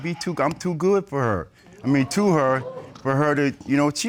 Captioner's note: audience exclaims